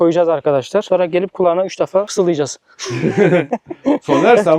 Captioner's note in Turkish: kahkaha